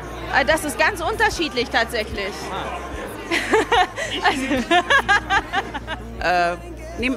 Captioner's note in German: lachen